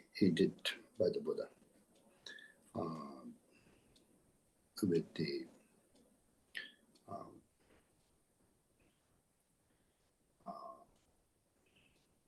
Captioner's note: tibetan